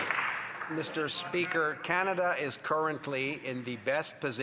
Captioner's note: some Applause